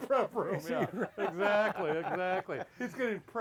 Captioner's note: laughs